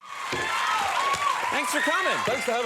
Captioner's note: audience cheering